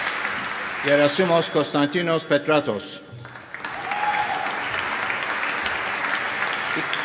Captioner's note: cheering and applause